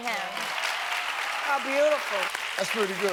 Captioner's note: audience applauding